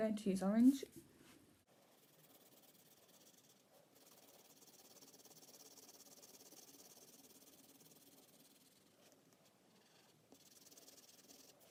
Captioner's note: scribbling